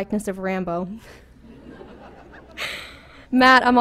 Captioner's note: laughter